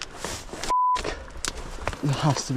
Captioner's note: beeps